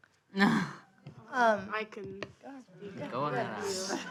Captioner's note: sighing